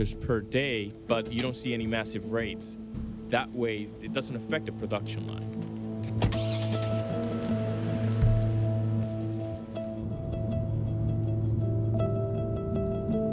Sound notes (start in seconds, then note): 6.0 door closes; 6.1 engine starts